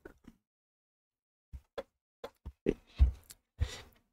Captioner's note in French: Silence